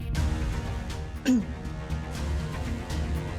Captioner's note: clears throat